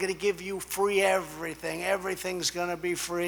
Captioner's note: none